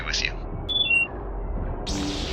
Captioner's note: louder battle sounds